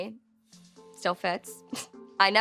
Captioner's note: chuckles